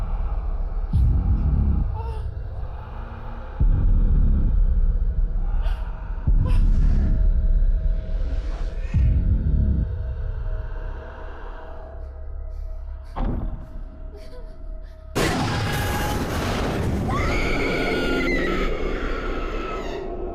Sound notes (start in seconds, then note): 0.5 monster rasping softly; 0.5 soft eerie music; 10.6 monster rasping softly; 10.6 soft eerie music; 13.2 object thudding; 14.9 sudden ominous music; 15.2 monster howling; 17.0 Brandy screaming